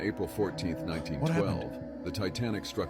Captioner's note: gasps